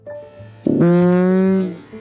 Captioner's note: squeaking